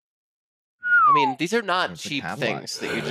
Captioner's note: whistles